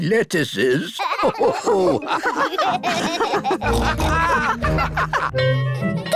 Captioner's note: all laugh